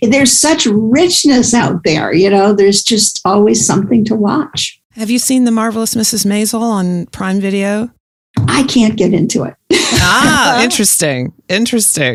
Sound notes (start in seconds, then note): 9.8 laughs